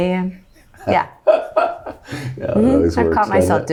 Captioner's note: laughs